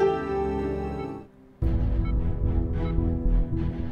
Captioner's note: machine beeping